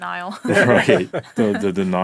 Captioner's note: laughing